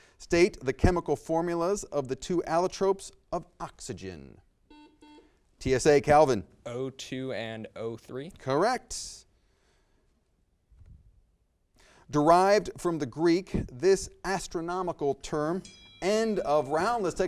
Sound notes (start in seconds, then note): 4.6 buzzer beeps; 15.5 bell chimes